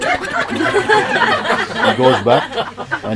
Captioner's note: laughter